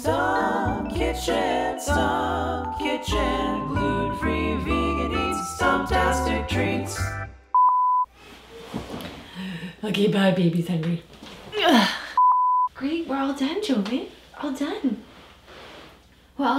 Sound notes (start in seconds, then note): 7.5 beep; 12.2 beep